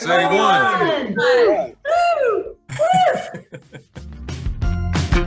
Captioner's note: everyone cheers